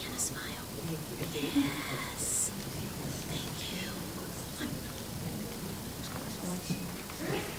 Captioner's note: crowd talking indistinctly